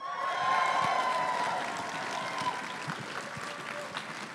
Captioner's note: crowd cheering and applauding